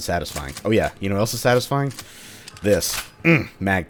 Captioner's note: mag tap